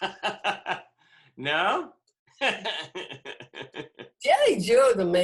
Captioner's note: laughter